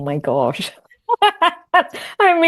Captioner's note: laughing